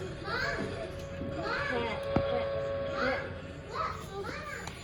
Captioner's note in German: Freizeichen am Telefon